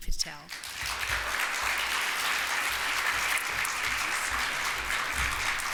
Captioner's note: audience applauds